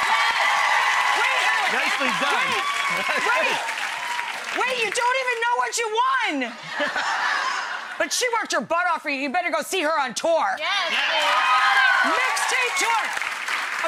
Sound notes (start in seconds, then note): 6.5 crowd laughs; 10.7 crowd cheers loudly